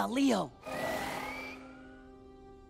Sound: screeching

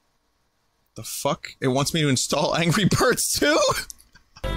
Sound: laughs

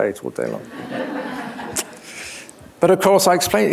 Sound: laughter

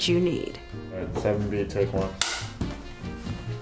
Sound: clapper; jazzy music

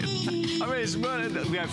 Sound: laughter

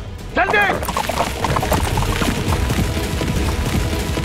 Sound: horses running

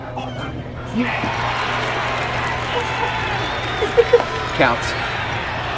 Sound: crowd cheers

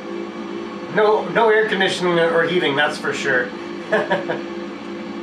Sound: laughter

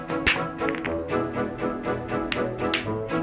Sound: cheerful music; pool balls clicking; cheerful music

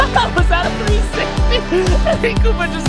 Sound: laughs

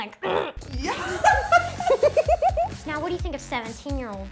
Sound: laughing

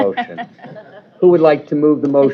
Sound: laughter

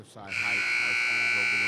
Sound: buzzer dings

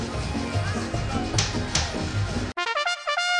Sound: patting

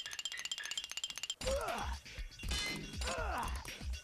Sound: grunting

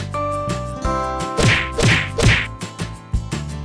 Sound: punching

